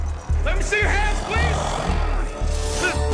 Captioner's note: growls